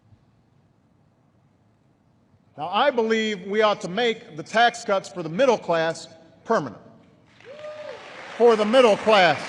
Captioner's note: applause